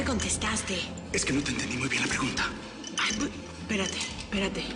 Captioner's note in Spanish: En voz baja